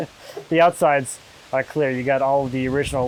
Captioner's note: laughing